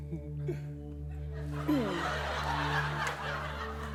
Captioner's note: laughter